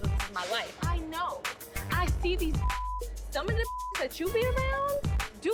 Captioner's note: beep